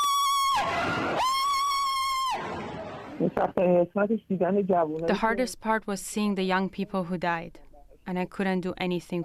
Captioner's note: screaming